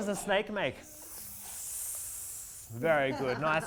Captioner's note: children collectively make a hissing sound